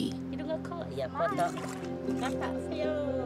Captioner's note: chatter